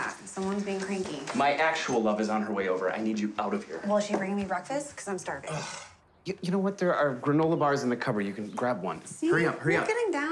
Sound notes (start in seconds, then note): 5.4 sighing